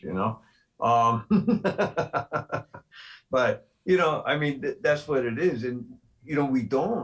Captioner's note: laughter